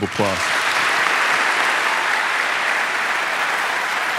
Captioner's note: audience applauding